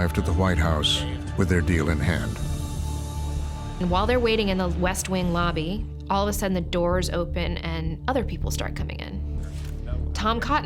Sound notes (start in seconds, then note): none